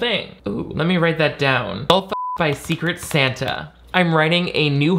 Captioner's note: beep